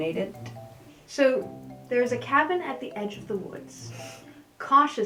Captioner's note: snort